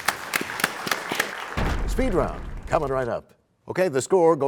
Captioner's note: applause